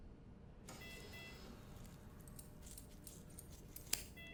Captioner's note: sound of slow heartbeat on heart rate monitor